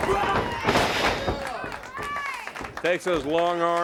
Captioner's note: crowd cheering